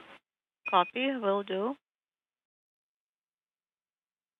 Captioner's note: speaking foreign language